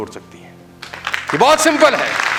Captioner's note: rounds of applause